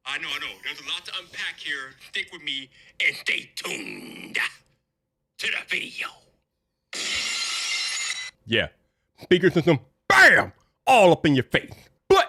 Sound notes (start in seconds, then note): 7.0 glass shattering